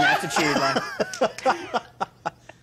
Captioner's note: all laughing